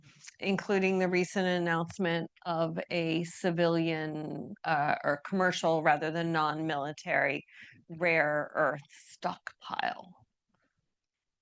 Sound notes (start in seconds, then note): none